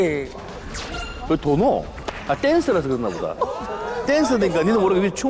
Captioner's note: spins to land